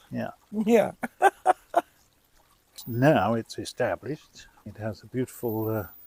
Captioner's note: laughs